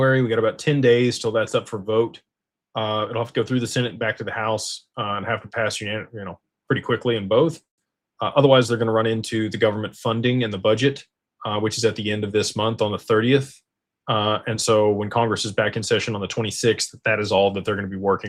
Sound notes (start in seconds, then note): none